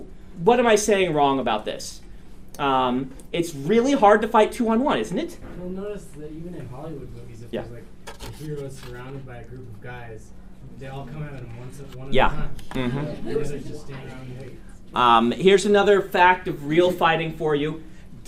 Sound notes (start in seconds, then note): 12.8 students laugh